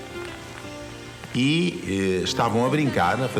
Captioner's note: speaking portuguese